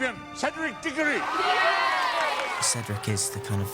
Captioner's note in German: alle jubeln